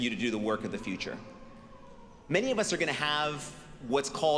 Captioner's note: none